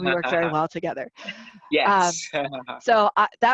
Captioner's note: laughing